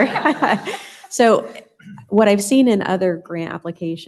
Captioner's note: laughter